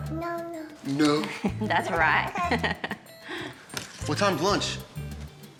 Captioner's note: laughs